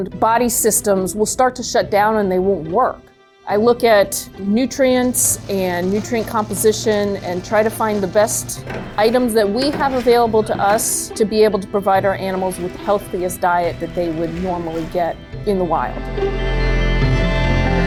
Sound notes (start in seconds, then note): 4.5 salad shooter whirs